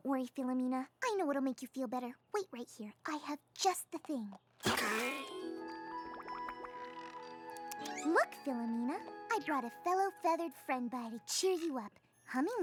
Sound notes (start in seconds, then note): 4.6 coughs